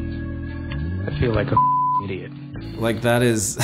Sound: beep

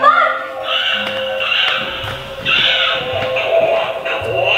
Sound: crows cawing

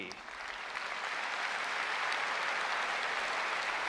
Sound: applause

